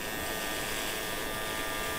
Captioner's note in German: Leises Surren